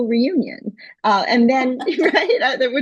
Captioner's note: laughter